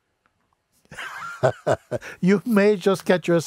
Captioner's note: Mooji lacht